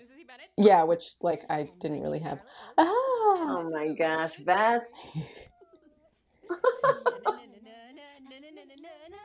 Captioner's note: laughter